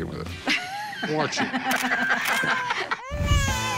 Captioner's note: laughter; baby crying